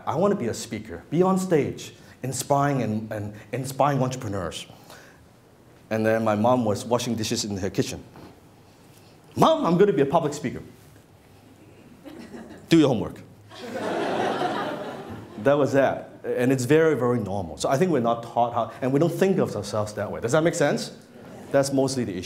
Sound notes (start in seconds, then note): 13.5 laughter